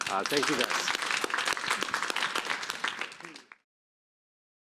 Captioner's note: applause